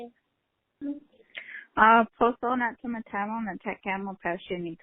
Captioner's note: speaking Native language